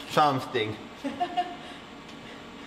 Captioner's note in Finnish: nauraa